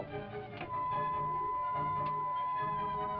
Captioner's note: beeping